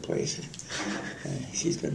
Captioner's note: laughter